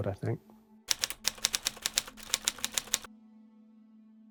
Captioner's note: typewriter typing